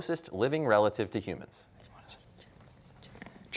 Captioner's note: whispering